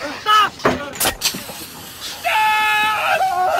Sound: pepper spray sound

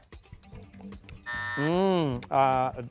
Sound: buzzer

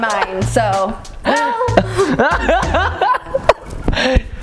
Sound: laughs

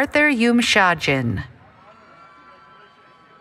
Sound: cheering

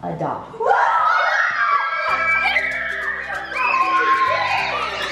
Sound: children screaming

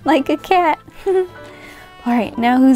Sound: giggles

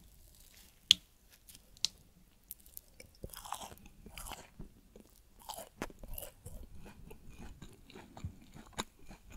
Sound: eating sound

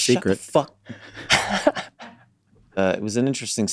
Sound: laughs

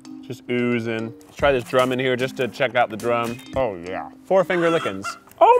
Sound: chicken clucks

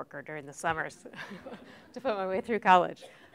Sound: laughter

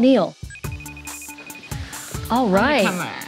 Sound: phone rings

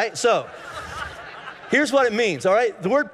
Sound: congregation laughing

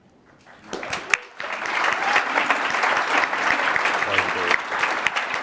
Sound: audience applauding

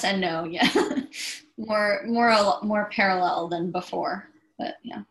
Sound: chuckles

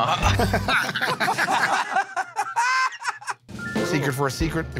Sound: laughter

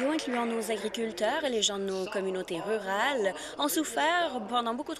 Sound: applause

